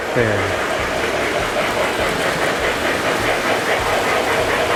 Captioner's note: trains whir and chug